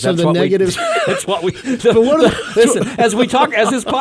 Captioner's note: hosts laughing